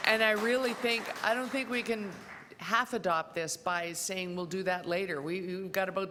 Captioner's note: applause